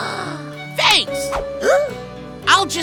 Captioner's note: gasps